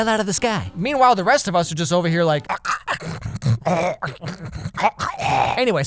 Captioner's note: gurgling snoring sounds